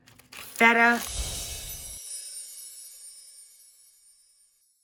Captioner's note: air whooshes